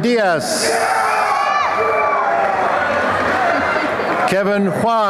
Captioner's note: applause and cheering